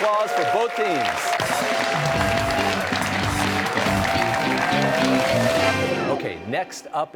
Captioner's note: cheers and applause